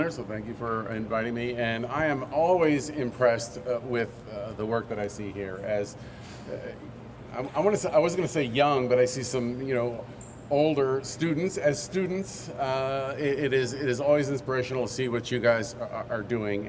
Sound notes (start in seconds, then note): none